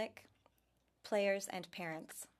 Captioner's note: speaking french